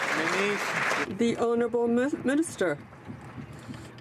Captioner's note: some Applause